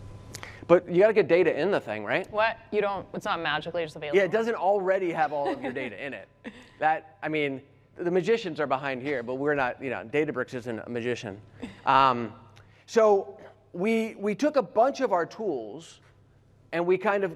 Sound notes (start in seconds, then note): 5.2 laughter